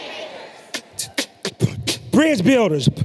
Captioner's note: beatboxes